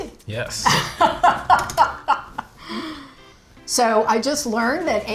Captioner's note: laughs